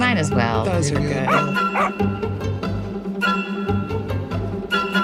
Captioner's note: dog barking